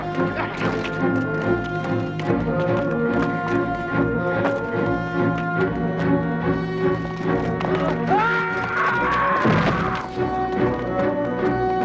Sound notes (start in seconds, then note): 8.0 guard screams